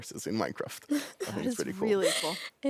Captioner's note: laughs